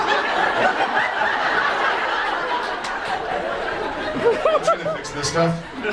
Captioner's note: audience laughs